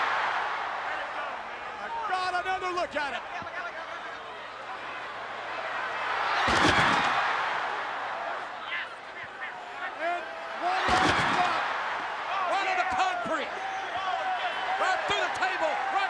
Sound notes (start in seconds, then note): 3.9 crowd chattering